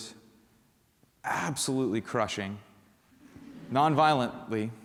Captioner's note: laughter